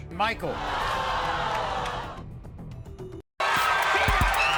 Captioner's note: audience cheering